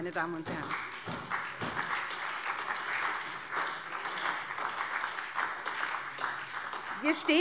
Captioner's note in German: Beifall